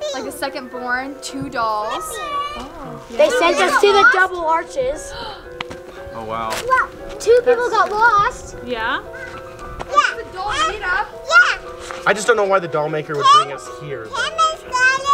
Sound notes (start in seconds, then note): 5.1 gasping